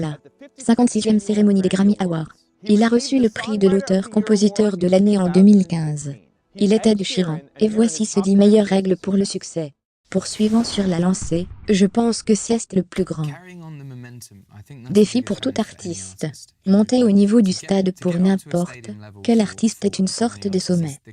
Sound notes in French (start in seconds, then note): 10.2 whoosh